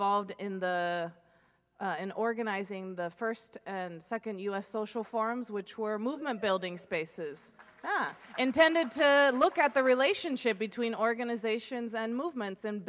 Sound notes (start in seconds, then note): 7.5 applause